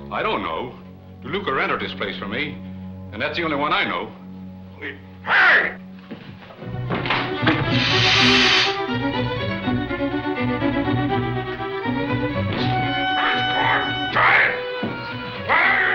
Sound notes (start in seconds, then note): 7.4 fizzing sound; 13.1 Axford mutters